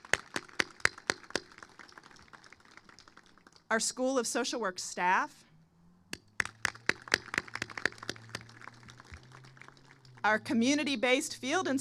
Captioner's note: applause